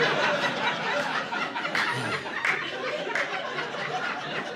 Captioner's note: laughter